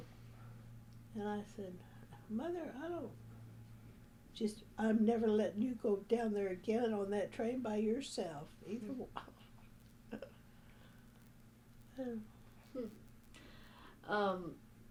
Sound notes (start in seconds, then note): 13.4 laughs